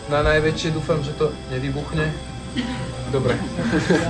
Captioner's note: laugh